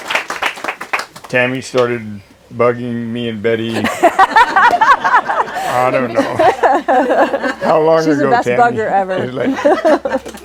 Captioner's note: laughter